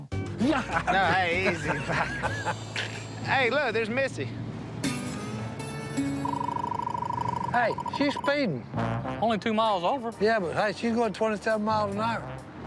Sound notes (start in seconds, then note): 0.4 laughs; 6.1 radar gun beeping